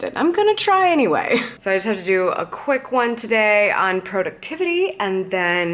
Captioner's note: none